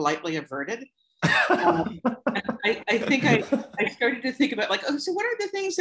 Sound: laughter

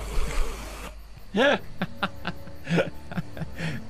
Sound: laughs xD

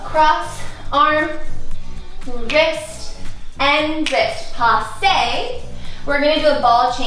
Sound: fingers snap

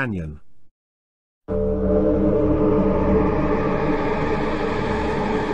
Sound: eerie Sounds

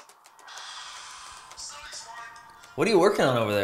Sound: Brisksaber game noises

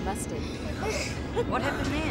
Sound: giggling

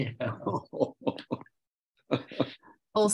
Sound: laughs

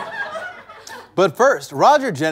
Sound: audience laughter

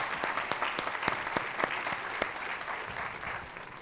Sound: applause

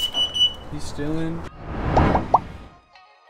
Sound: popping sounds

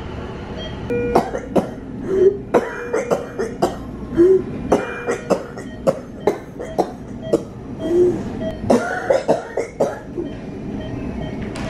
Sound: beeping and coughing; beeping

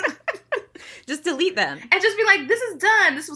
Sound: both laughing

